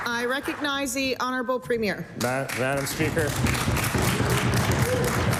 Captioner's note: applause